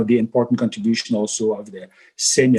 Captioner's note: murmurs